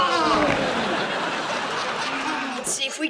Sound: laughing

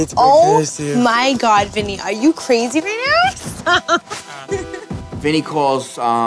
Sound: laughs

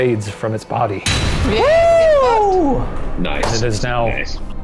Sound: cheering

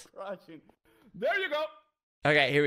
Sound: in English

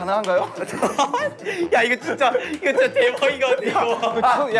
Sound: laughing

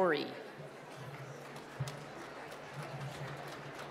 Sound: applause

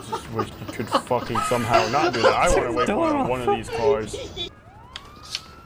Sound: wheeze

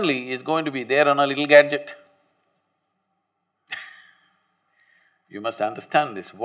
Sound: laughs

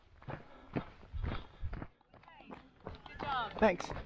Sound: footsteps crunching

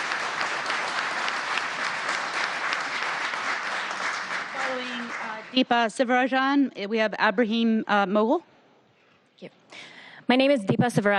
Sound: applause

